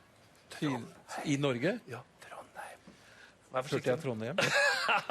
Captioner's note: whispers Trondheim